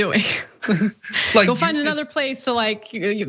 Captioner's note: laugh